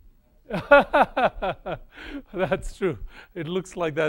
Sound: laughs

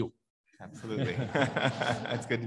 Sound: audience laughs; laughs

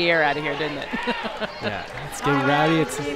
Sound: laughing

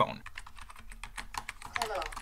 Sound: keyboard clicks

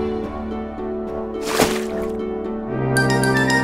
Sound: water splash sound

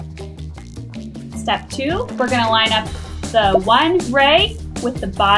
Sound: air popping

